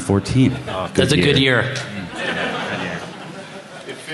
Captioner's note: laughter